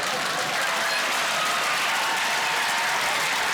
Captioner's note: applause